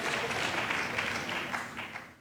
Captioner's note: applause